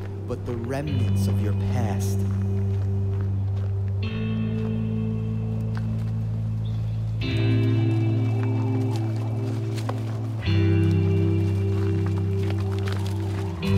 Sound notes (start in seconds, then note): 4.4 somber music; 7.9 wind blowing; 9.9 footsteps crunching